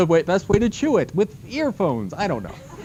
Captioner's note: laughter